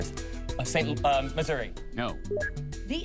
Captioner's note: beeps